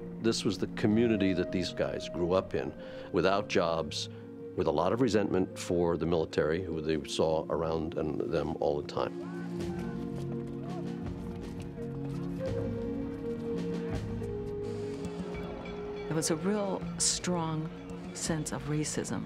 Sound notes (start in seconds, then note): 15.2 distant shouting